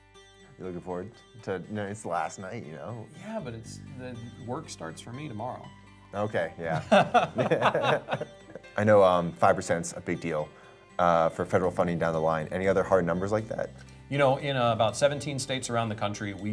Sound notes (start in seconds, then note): 6.7 chairman laughs; 6.7 laughs